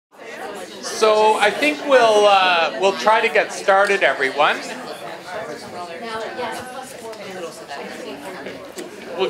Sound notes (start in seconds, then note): 0.0 group chattering; 4.6 group chattering continues